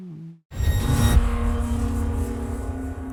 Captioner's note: electronic swoosh